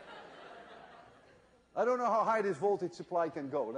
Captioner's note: laughter